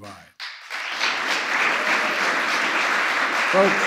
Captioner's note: applause